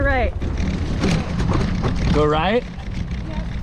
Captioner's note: bike rumbling